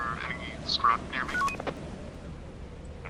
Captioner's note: walkie Beeps